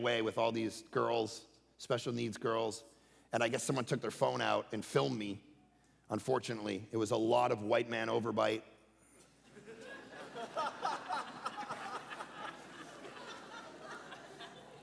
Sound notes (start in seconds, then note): 9.4 congregation laughing